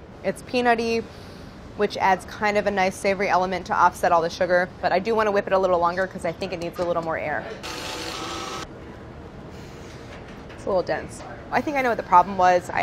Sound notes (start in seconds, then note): 7.6 mixer whirring